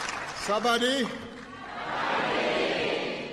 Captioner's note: applause